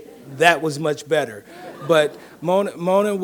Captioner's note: audience laughing